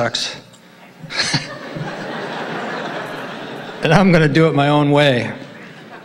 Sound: laughs

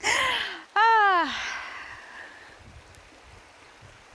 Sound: laughs; water runs

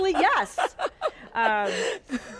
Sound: laughs

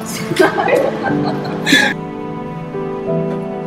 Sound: mockingly laughing

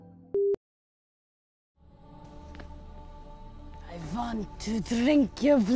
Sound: countdown beeps

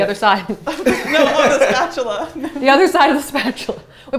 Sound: laughter

